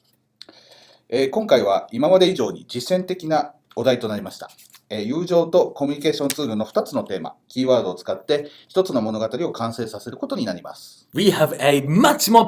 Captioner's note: speaking Japanese